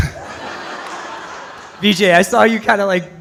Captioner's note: audience laughs